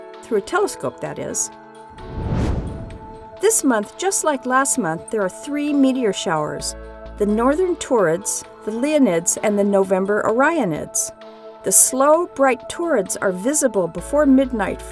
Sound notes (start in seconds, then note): 1.9 whoosh